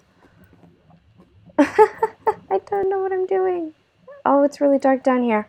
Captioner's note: laughter